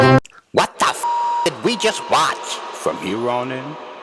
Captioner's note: beep